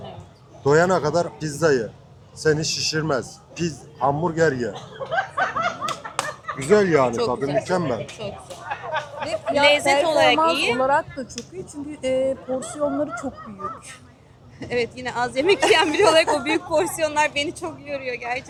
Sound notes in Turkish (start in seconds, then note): 4.7 kahkaha